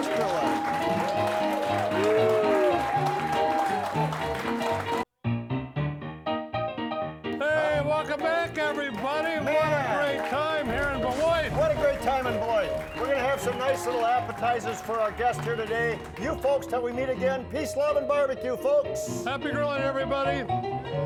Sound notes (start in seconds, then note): 2.3 crowd cheering; 4.6 upbeat piano music